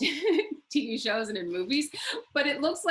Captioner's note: laughs